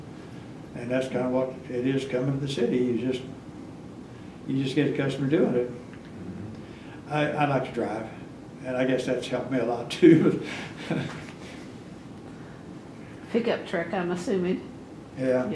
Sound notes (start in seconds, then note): 10.7 laughs